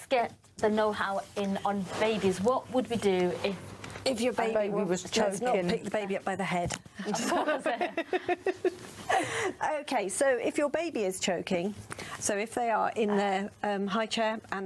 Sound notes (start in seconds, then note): 7.0 laughs